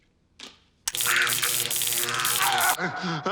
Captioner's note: zapping, screaming